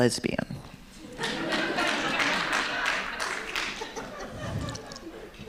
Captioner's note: audience laughing